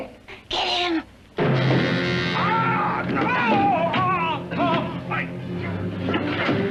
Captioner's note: screaming; frightening music